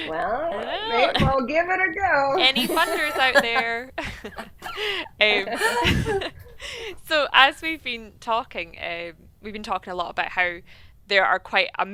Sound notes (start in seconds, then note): 5.0 doctors laughing